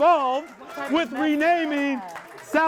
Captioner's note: audience claps and shouts